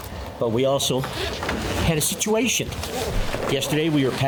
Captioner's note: zipper scraping